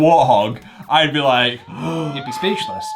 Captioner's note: gasps